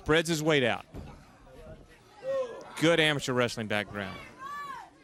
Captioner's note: crowd chatter